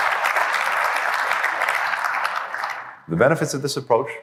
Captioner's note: applause